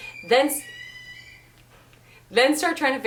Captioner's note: baby cries